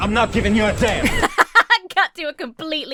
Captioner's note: Emma laughs